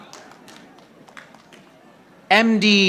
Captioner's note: audience applauding